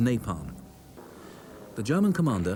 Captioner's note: planes buzz